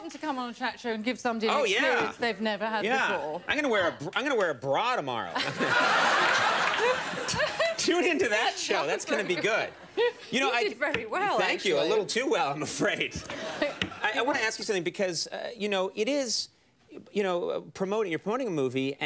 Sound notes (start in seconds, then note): 5.4 everyone laughs; 8.8 laughs; 13.6 laughs